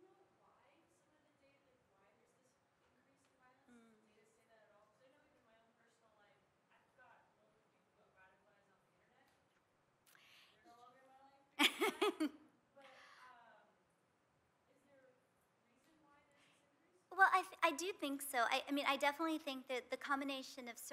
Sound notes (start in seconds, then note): 11.6 laughs